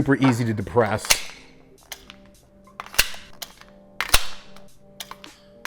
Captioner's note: magazine clicking repeatedly